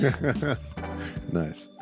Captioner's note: laughing